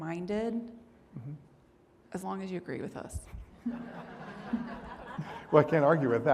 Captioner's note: audience laughing